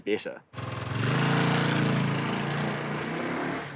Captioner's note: engine revs